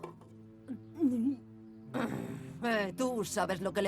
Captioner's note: growling